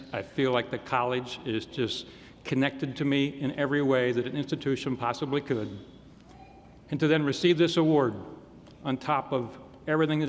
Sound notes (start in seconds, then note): none